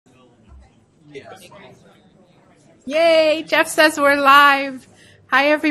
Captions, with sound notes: (mixed chatter) - Yay, Jeff says we're live.